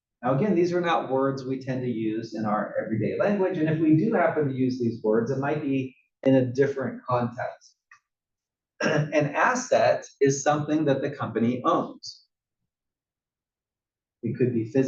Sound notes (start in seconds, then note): 8.8 cough